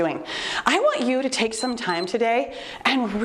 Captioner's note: timer beeps